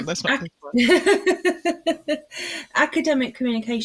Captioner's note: laughs